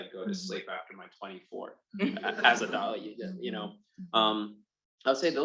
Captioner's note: attendees laughing